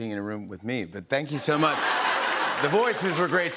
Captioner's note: laughter